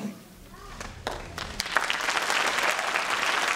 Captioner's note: applause